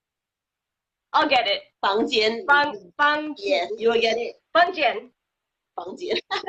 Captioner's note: speaking foreign language